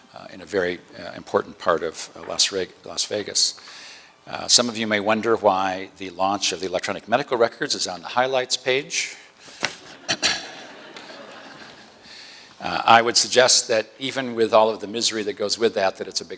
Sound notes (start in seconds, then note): 9.5 chuckle